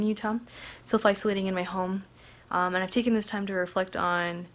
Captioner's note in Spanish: HABLA EN INGLéS